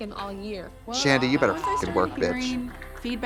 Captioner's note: beep